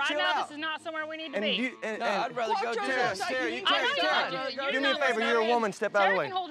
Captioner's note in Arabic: صيحات متداخلة